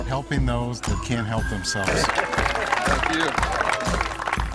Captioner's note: applause